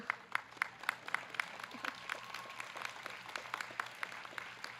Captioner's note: audience clapping